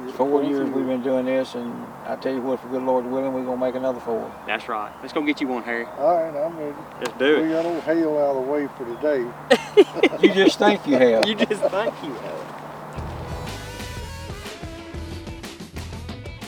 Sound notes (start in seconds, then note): 9.4 laughing; 13.0 rock music